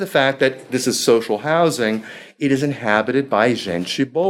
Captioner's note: speaking foreign language